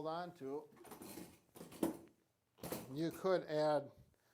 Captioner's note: chair scrapes